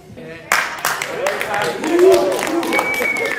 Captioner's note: applause